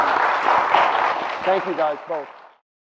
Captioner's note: applause